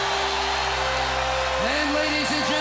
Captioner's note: crowd cheering